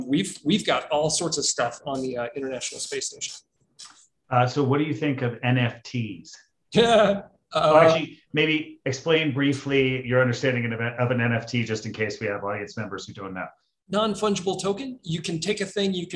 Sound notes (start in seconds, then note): 6.8 laughs